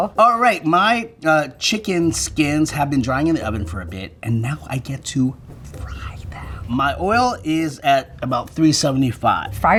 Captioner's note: none